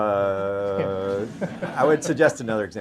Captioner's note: audience laughter